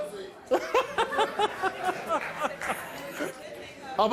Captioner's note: laughs